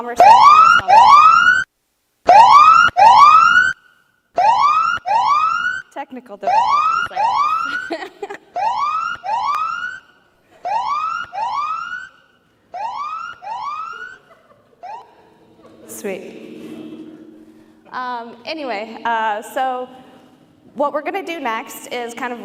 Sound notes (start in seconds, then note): 0.1 siren; 6.4 laughter; 7.1 siren